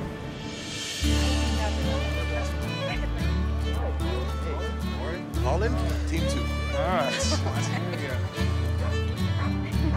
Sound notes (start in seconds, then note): 7.0 laughing